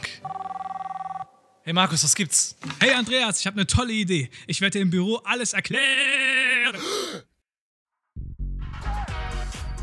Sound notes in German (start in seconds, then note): 0.1 Handy klingelt; 6.7 erschrickt